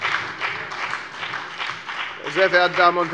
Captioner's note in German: Beifall bei der FDP und bei Abgeordneten der SPD